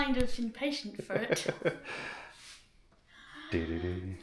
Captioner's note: laughter